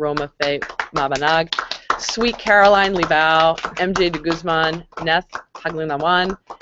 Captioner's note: applause